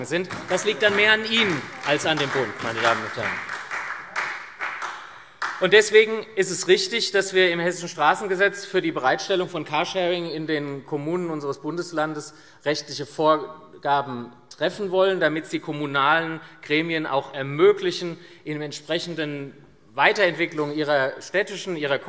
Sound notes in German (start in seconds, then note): 3.1 Beifall SPD und Freie Demokraten